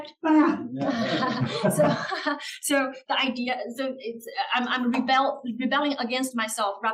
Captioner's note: laugh